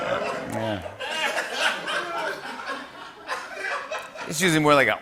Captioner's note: laughter